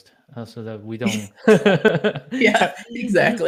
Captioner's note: both laughing